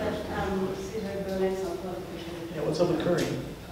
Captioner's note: speaks away from mic